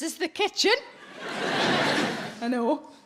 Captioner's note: audience laughing